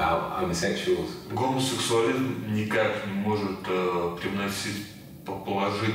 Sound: speaking in foreign language

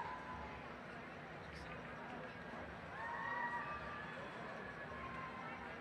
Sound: cheering

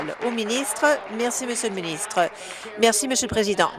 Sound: applause

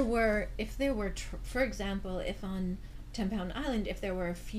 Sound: voiceover

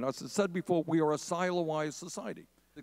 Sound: none

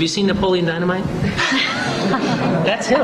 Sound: laughter

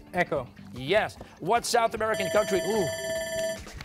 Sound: bell ringing

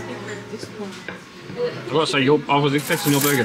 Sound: none

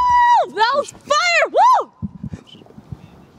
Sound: woooo

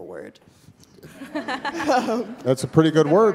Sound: audience laughing

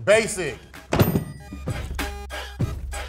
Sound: hands thumping; upbeat hip hop music

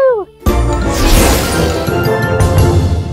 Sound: rocket launching

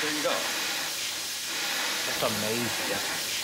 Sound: air hissing

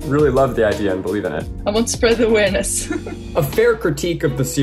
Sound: chuckles

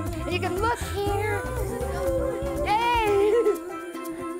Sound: laughs; upbeat music

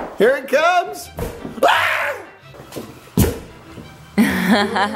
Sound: screams

